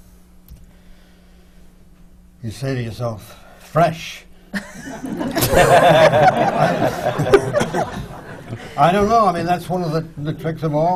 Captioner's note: laughter